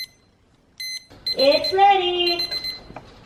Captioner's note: timer beeping